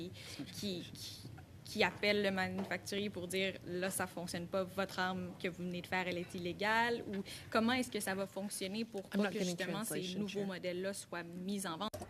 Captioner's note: speaking French